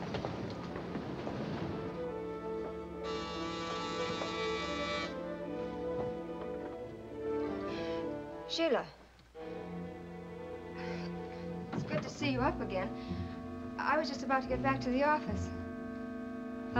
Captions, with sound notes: (Doorbell buzzing) (Gentle music) Sheila. It's good to see you up again. I was just about to get back to the office.